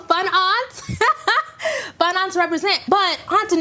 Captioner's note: laughing